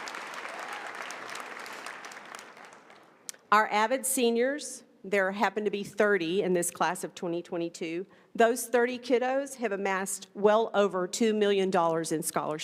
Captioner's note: applause